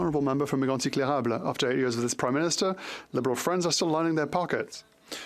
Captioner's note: speaking French